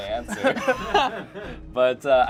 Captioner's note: group laughs